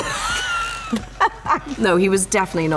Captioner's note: laughter